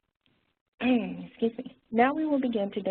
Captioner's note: clears throat